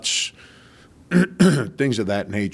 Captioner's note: clearing throat